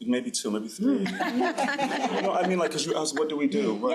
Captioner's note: crowd laughing